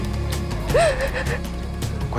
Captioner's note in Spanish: Sollozos